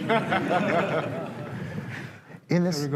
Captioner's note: laughter